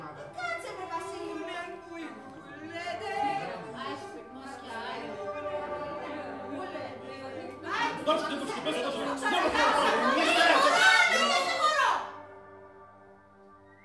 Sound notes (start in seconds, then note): 2.7 bow squeaks; 7.7 preparations, chatting